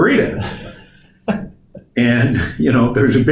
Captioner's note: laughs